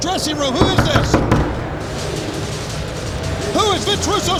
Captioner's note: Vince knocking on door